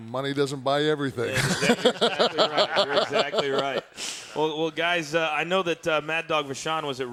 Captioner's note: laugh